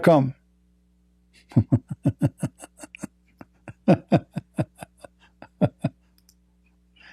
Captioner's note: Ketawa